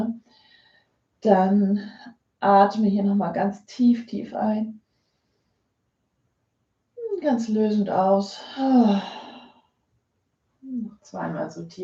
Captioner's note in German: seufzt